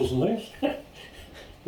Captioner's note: laughter